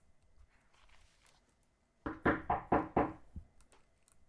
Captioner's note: knock on door